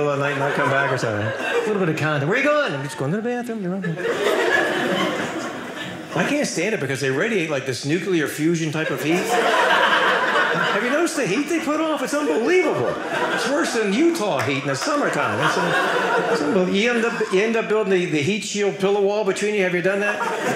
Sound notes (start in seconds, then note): 15.5 audience laughing